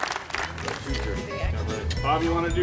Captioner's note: applause